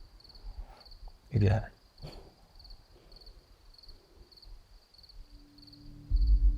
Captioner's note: Nicki chuckles; tense music